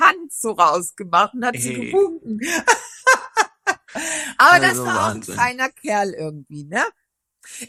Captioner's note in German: gelächter